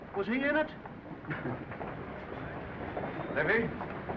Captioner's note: men chuckling